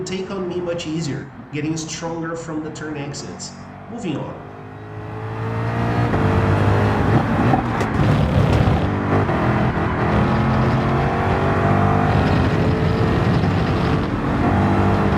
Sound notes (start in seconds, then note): 4.5 engines revving, cars noises